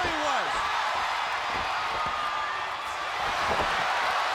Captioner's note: audience cheering